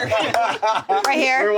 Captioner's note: everyone laughs